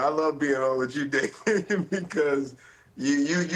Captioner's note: laughter